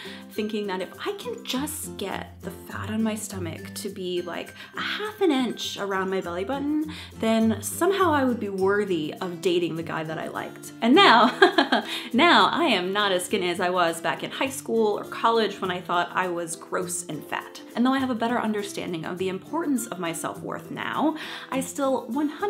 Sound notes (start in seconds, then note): 11.1 chuckles